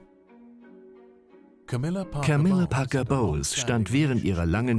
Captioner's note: voiceover